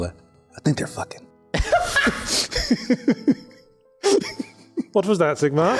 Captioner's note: everyone jaw hits the floor and laughs